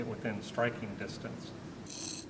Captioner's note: scratching noise